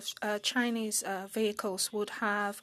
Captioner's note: speaking French